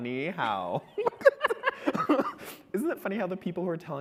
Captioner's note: both laughing